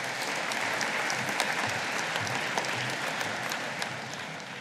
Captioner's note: audience applauding